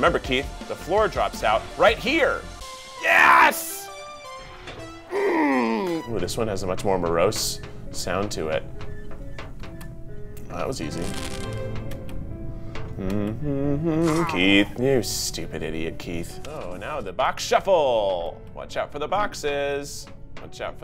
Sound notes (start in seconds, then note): 5.1 grunts; 9.6 morose music; 10.6 hums